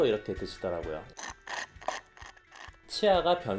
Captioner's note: slurp slurp